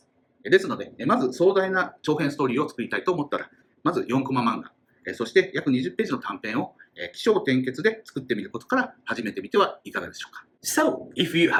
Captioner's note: speaking Japanese